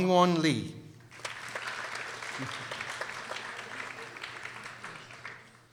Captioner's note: people applauding